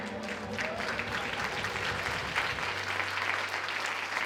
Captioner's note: audience applauds